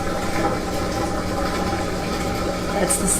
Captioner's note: washer draining